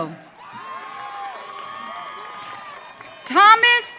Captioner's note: audience cheering